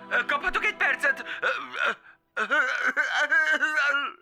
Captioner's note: crying